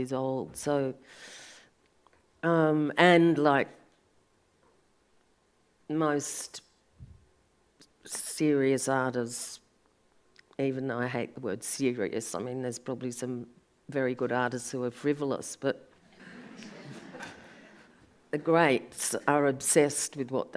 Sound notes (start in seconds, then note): 16.1 audience laughs